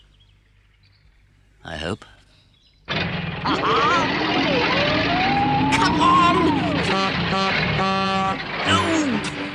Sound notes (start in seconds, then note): 2.8 engine starts; 6.8 horn honks